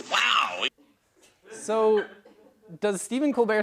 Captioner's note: laugh